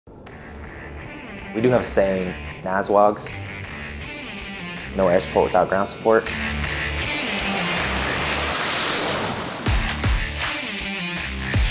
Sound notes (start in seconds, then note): 6.8 airplane taking off